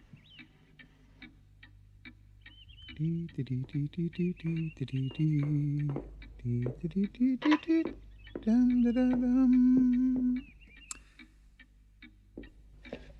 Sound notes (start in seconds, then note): 2.4 humming continues